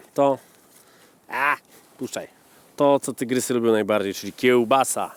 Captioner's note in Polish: krzyk